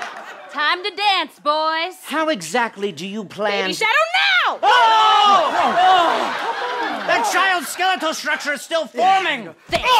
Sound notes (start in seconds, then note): 4.6 screaming